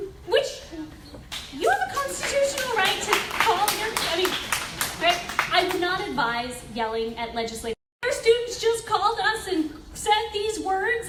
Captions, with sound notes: which you have a constitutional right to call your (audience applauds) I mean, right? I will not advise yelling at legislators. "Your student just called us and said these words,